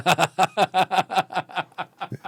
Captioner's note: laughing